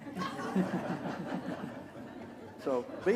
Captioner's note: laughter